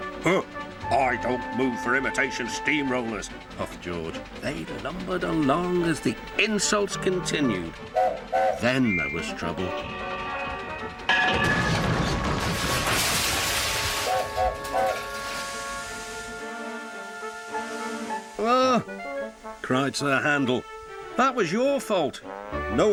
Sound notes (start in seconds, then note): 7.9 Sir Handel whistles, George whistles back; 10.9 metal crashing noises; 11.1 Sir Handel whistles